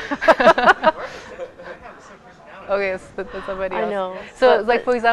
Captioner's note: laughs